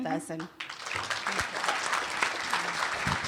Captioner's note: applause